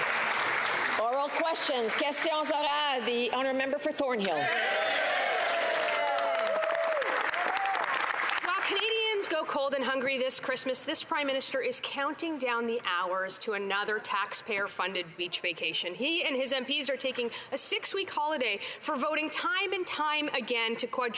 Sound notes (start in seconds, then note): 2.4 some Applause; 6.2 speaking French; 8.6 some Applause